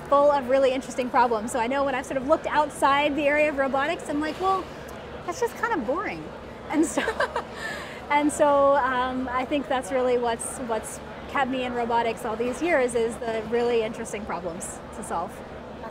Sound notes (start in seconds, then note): 6.9 laughing